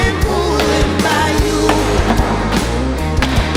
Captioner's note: hitting pinata